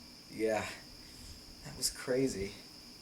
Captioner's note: none